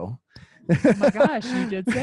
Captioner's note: laughs